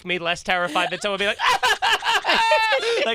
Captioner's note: cries